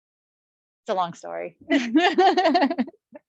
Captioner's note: laughs